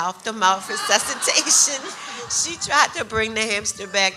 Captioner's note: audience laughs